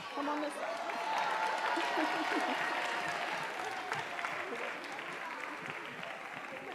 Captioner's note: chuckling